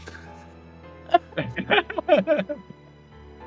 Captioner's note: laughs